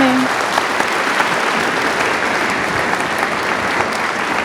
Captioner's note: audience applauding